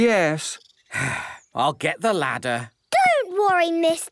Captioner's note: sigh